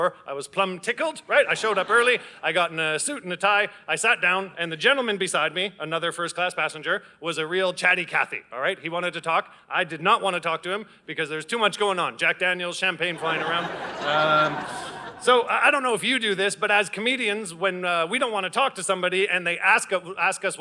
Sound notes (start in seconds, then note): 13.1 audience laughing